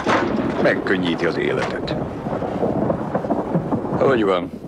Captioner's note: thunder rumbling